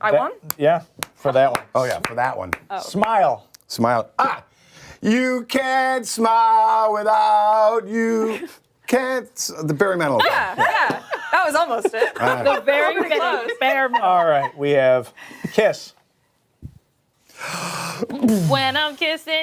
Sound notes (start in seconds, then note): 14.7 laughter